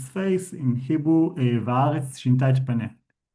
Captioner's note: speaking in foreign language